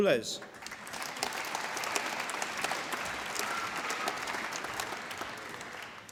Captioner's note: applause